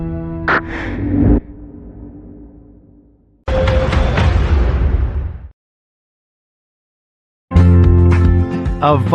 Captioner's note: logo o whooshining; cheerful guitar music